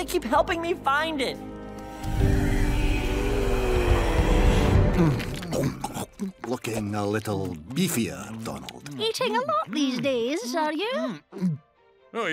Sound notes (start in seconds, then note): 3.6 ghostly moaning; 5.3 Launchpad gobbling